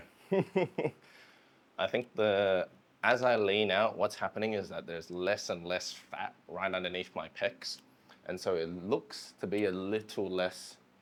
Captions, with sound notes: (laughing) I think the, as I lean out, what's happening is that there's less and less fat right underneath my pecs, and so it looks to be a little less,